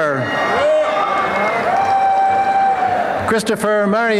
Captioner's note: applause and cheering